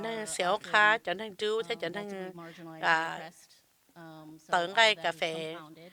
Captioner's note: none